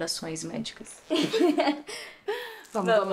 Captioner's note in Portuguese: risos